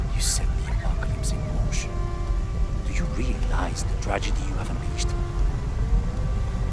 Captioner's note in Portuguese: game audio